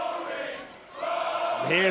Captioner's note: fans chanting